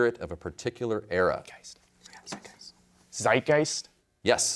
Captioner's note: whispers